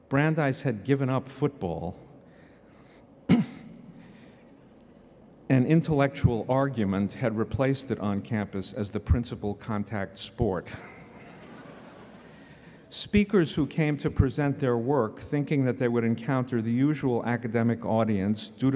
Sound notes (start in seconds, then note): 10.8 laughter